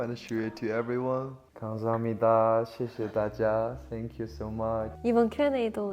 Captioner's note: in three languages